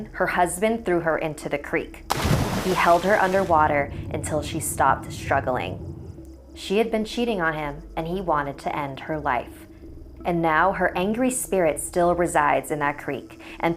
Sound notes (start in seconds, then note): 2.1 splash